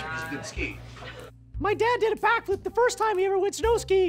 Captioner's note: in a nerdy voice